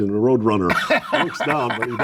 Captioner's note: laughs